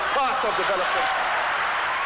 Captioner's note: crowd cheers